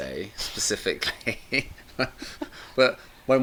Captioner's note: chuckles